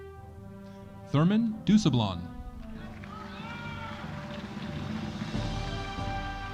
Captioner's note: audience cheering